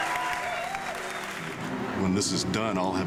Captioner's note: cheering